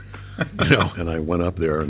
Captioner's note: laughing